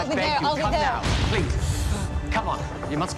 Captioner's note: explosions